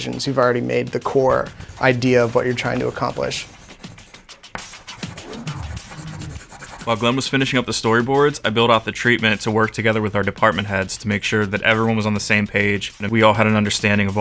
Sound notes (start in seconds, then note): 3.7 pencil scratching